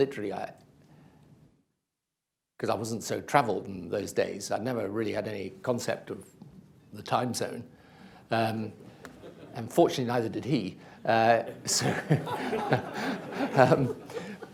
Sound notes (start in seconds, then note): 11.4 laughs, laughter